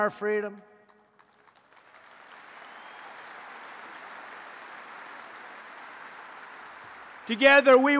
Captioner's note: applause